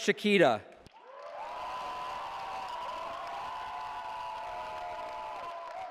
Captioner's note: cheering